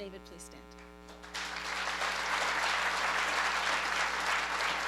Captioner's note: applause